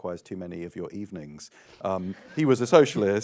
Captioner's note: laughs